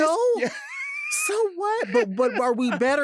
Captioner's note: laughing